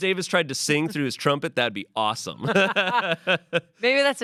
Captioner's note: laughs